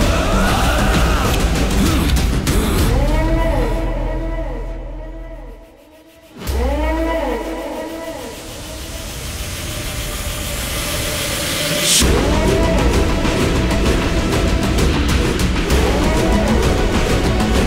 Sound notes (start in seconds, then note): 3.2 crowd cheering